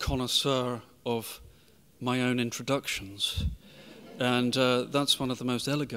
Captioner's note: audience chuckling